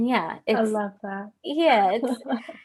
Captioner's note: laughs